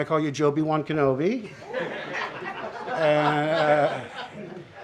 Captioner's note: laughter